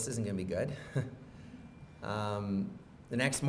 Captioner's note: chuckles